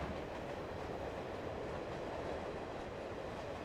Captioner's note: train rumbling